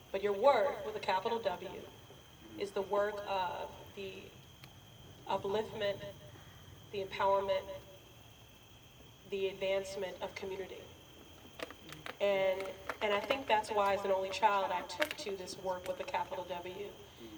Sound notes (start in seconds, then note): none